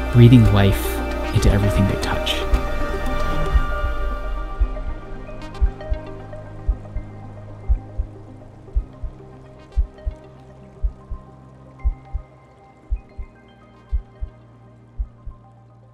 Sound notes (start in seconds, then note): 3.2 heart beeping; 3.8 gentle music